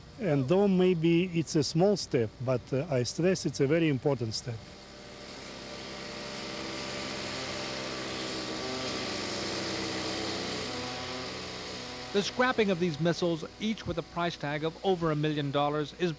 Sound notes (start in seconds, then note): 5.2 saw buzzing